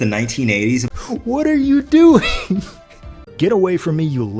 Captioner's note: stifled laughter